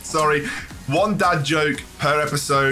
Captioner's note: laughs